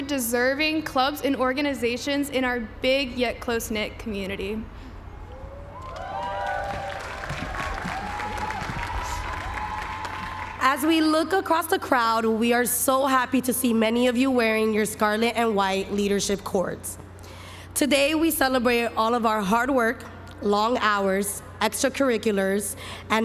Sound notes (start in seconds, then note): 5.8 applause